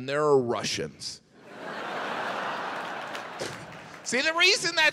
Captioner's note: audience laughs